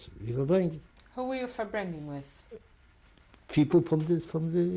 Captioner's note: non-english; non-english